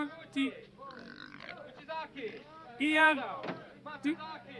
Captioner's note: pig squeals